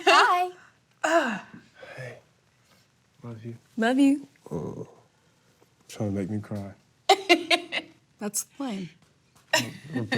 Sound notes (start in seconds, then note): 7.1 laughs